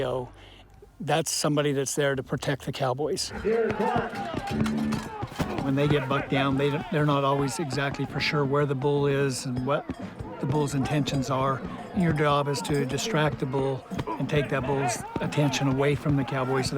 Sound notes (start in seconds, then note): 3.5 yelling